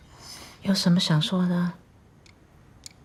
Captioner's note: speaking Mandarin